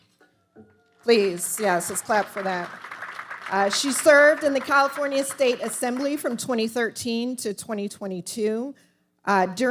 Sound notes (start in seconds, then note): 1.0 audience applauding